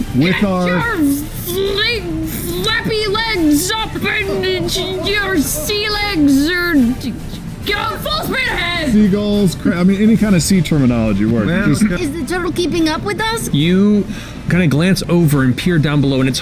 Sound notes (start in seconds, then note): 4.2 sailor noises; 6.2 more sailor noises